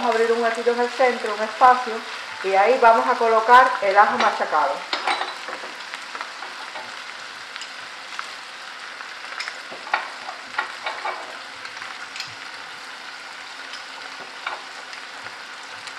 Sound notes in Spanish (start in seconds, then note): 5.3 Crepitación